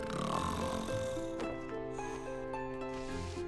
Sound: grunting

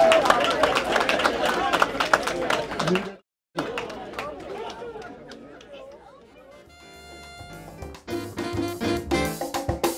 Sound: cheers

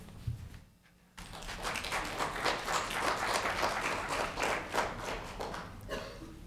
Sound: applause

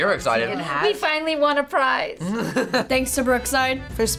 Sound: laughs

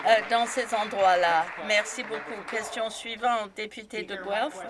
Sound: some Applause

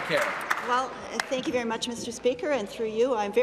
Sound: applause

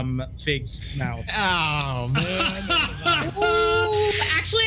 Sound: group laughs

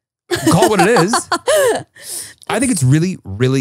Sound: laughing

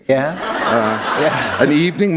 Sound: laughter

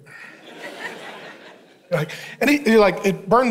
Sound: congregation laughing

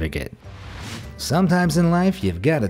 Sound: air whooshing

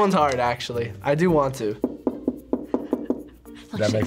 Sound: knocking

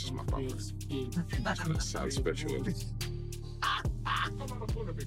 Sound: laughing

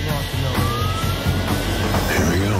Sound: sirens wailing

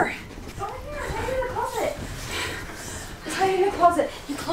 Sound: mom panting

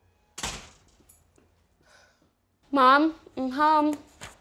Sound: door Closing

